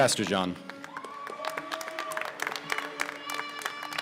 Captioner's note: applause